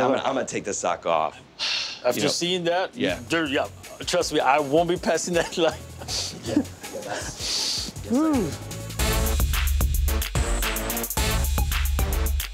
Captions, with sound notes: Yeah, I'm gonna take this sock off. [ Sighs ] After seeing that, yeah. Trust me. I won't be passing that line. [ Chuckles ] Whew.